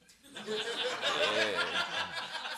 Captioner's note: laughter